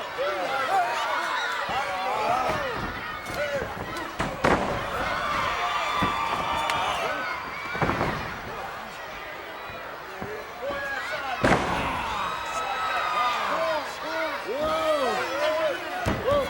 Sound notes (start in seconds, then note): 4.9 body thuds; 11.2 Ted groans; 12.0 body thuds